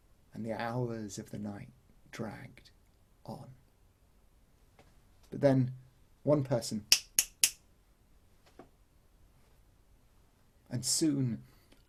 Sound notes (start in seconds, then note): 6.9 clicks fingers